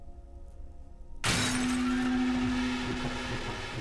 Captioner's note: item breaks